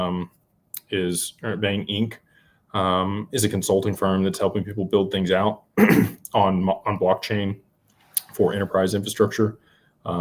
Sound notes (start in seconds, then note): 5.8 clears throat